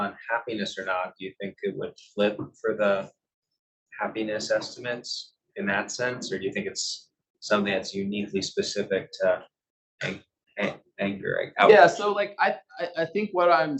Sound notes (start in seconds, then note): 1.7 male Voice